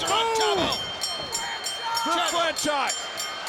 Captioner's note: bell rings